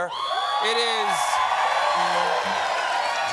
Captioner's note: cheers and applause